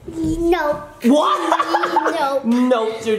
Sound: laughs

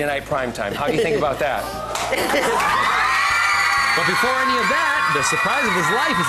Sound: sceaming

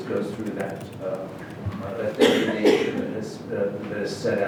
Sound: speaker drowned out by coughing

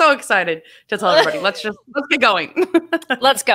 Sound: laughs

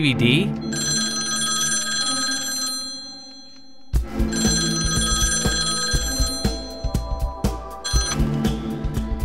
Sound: phone ringing

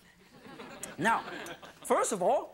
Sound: audience laughing

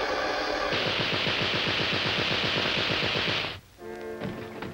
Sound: rapid gunshots crack; mysterious music

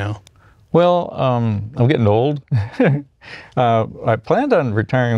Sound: laughs

